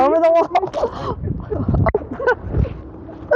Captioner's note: laughing